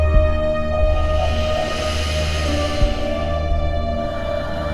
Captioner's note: deep inhaling; gentle exhaling